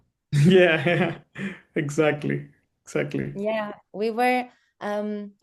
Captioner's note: chuckles